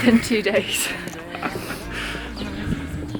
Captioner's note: laughs